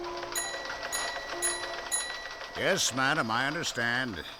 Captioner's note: typing, bell dinging